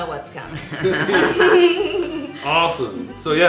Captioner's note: laughing